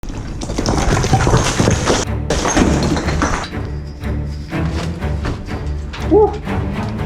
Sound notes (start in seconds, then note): 0.1 rocks slide off and crash; 0.5 intense music